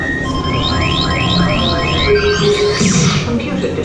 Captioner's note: laser shooting; alarm blaring